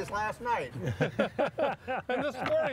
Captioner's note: laughing